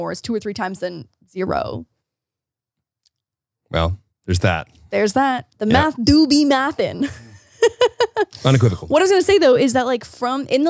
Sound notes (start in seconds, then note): 7.6 laughs